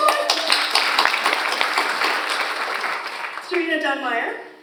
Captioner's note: audience applauds